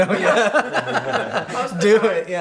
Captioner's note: laughs